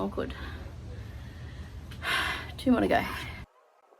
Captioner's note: sighs